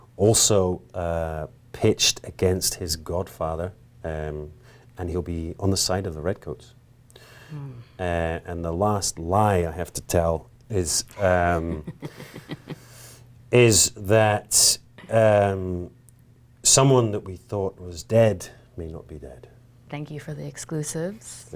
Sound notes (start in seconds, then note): 11.2 laughing